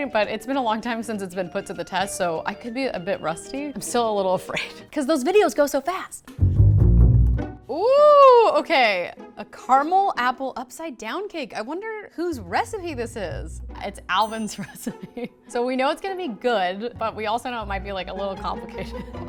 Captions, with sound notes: but it's been a long time since it's been put to the test, so I could be a bit rusty. I'm still a little afraid 'cause those videos go so fast. (playful music) Ooh, okay. A caramel apple upside down cake. I wonder whose recipe this is. It's Alvin's recipe, (bell dings) so we know it's gonna be good, but we also know it might be a little complicated.